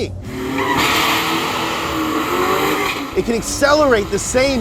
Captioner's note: tires squealing, engines roaring